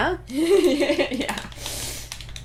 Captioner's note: laughing